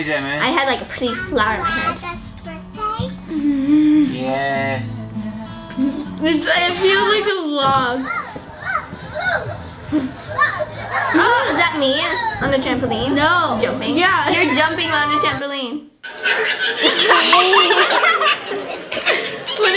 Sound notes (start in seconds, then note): 3.5 laughing; 16.1 laughing